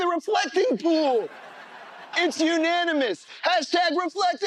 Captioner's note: laughter